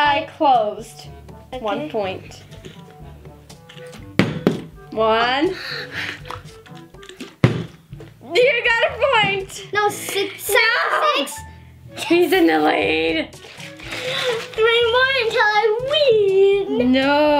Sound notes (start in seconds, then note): 4.1 bottle landing; 7.2 bottle landing